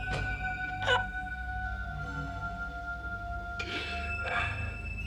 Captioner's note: Jonah gasps